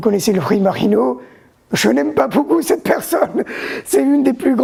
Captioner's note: laughs